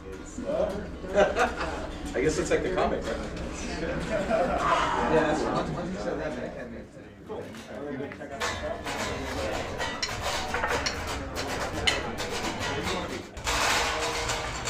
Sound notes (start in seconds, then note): 1.0 risas; 7.8 la charla continúa